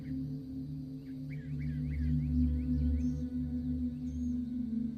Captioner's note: birds chirping